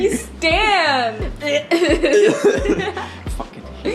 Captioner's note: puke sounds; whispering to self